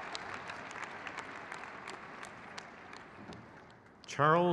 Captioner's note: crowd cheers